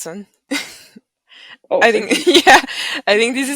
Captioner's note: laughing